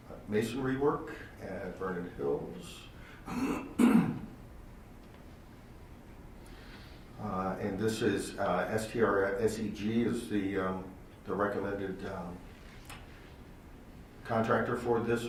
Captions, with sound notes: masonry work at Vernon Hills. (clears throat) This is, SEG is the recommended contractor for this one,